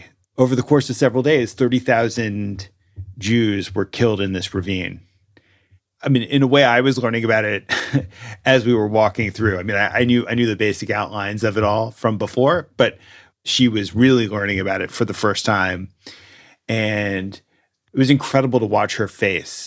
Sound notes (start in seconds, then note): 7.6 chuckles